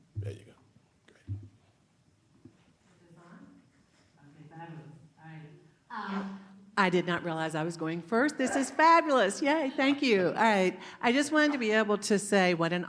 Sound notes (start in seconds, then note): 3.4 quietly; 6.7 mic turns on